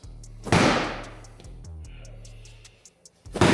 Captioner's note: ball slams